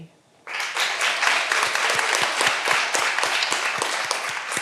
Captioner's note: all applauding